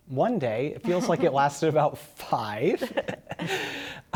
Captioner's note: laughter